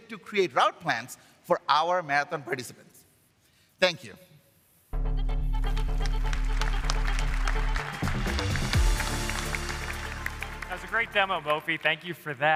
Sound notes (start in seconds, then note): 9.0 applause